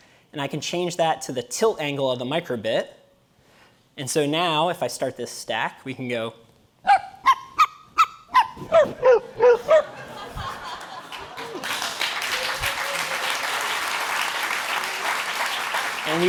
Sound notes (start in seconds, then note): 6.7 dog barking; 6.8 high pitch dog barking; 10.7 applause; 11.2 laughing